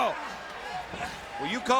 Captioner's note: crowd cheering